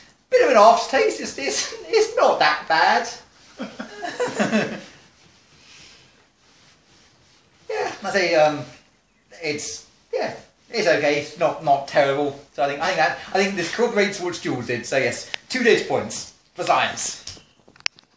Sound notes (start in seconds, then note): 3.4 laughter in background